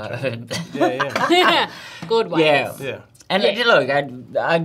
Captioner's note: laughs